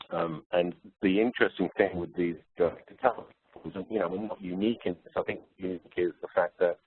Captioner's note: distorted audio